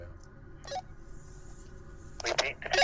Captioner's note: radio chirps